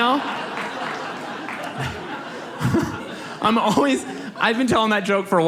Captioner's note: audience laughs